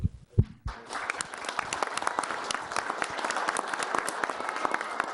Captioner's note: everybody applauds